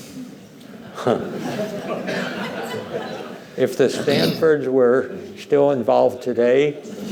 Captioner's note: laughter